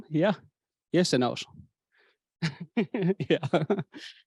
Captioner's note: chuckle